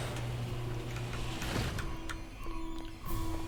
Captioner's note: alarm going off and scary music start